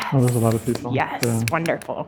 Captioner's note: claps